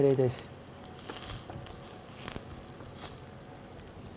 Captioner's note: sizzling sounds